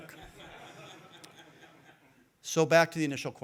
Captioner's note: audience laughing